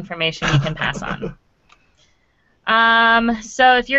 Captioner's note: laughing